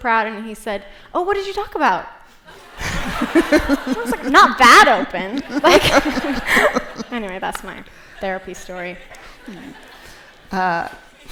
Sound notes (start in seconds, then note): 5.2 laughter